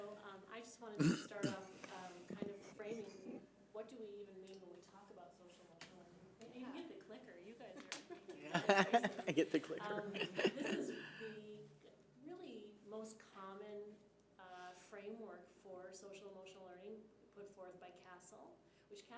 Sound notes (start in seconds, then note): 8.2 laughing